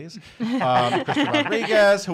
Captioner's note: laughing